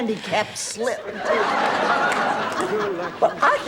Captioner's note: audience laughing